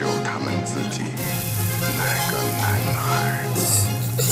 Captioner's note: electricity buzz